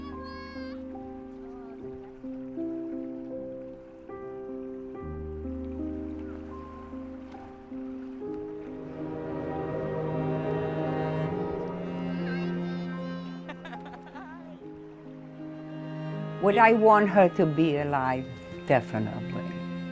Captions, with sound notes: - Hi grandma! [soft music] [train whistle blows] - Would I want her to be alive? Definitely.